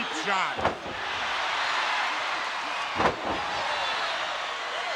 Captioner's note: crowd cheering